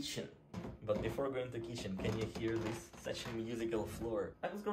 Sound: floor creaks

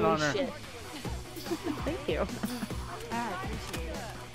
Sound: giggles

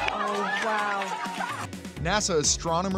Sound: scientists cheering

